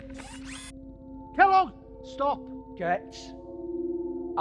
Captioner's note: Kellogg's limbs whirring